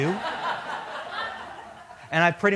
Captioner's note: laughter